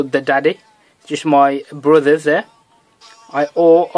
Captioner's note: phone